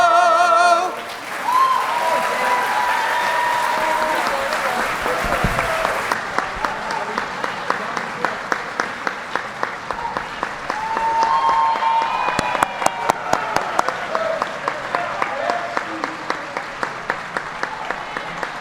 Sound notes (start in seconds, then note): 2.9 applause